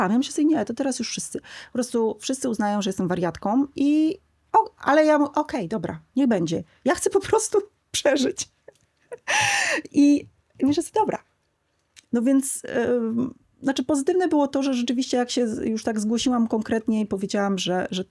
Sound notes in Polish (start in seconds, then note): 9.0 śmiech; 9.1 wciągnięcie powietrza